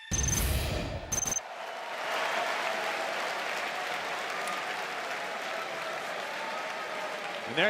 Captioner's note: cheers and applause